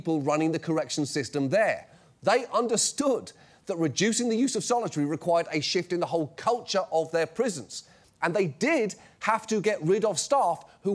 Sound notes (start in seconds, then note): none